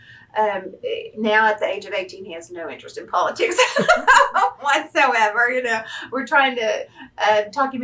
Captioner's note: laughs